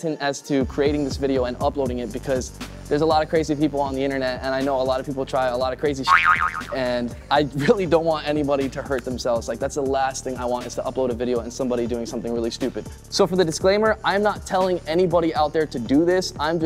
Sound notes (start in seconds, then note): 6.0 boing